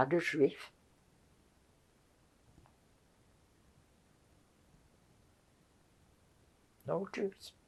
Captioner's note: pauses 6 seconds